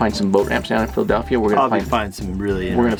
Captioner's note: murmurs